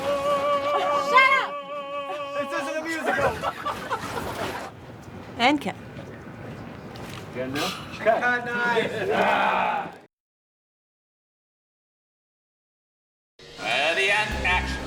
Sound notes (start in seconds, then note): 8.1 laughing